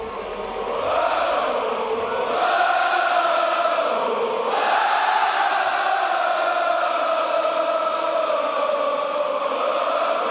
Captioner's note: crowd chanting